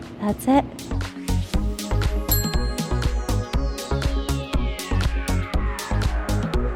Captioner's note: upbeat music; bell dings